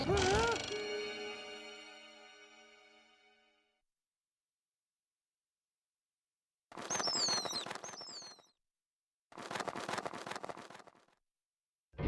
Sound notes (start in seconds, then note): 0.0 gasping; 6.8 wings flapping